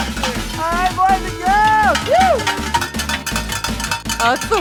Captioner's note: metal clanging